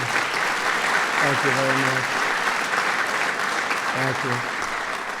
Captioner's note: applause